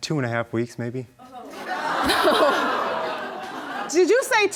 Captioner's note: audience laughing